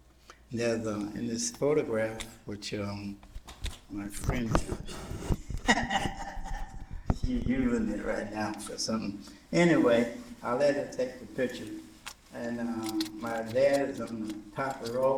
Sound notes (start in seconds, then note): 5.2 laughter